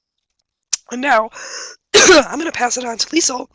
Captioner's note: coughs